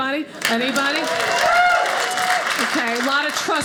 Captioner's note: audience applauding